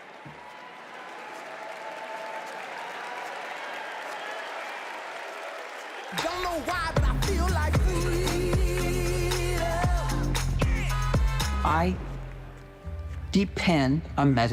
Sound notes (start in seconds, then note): 7.9 applause